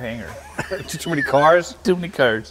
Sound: laughter

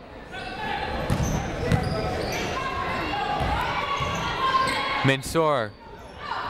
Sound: people shouting in the crowd

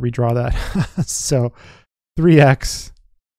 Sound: laughs

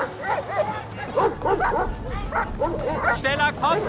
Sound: dogs barking

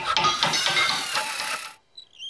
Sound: hammering and metal clanging

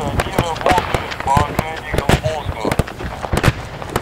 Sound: radio exchange

